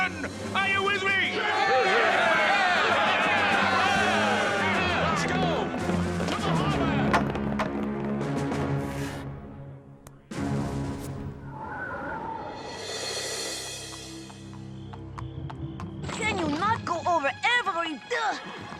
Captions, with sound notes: ARE YOU WITH ME? [CHEERING IN AGREEMENT] CAN YOU NOT GO OVER EVERY--UNH!